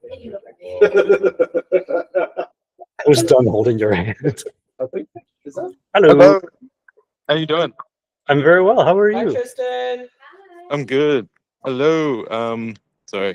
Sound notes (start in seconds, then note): 0.7 colleague laughing; 5.3 laughing